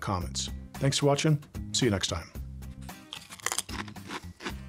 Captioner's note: crunch